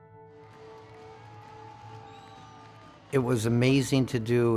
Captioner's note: audience distantly cheering